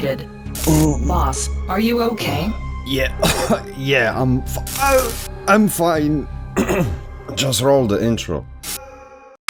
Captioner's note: cough